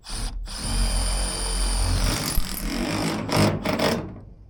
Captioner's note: drill drilling